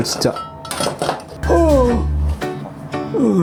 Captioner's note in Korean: 앓는 소리